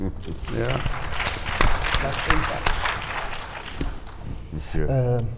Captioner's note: audience applauding